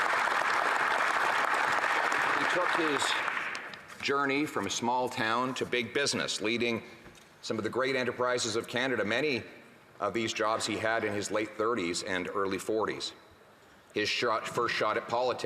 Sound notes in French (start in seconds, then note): 3.1 applaudissements